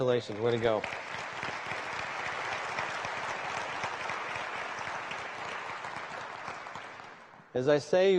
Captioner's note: applause